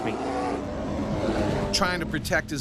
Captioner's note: bear growling; voiceover